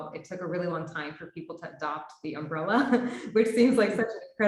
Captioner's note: laughs